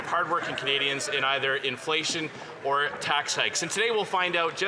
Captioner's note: some Applause